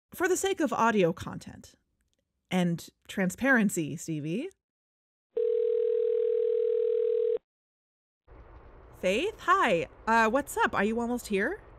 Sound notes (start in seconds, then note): 5.3 phone ring